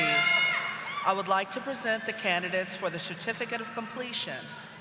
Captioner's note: audience applauding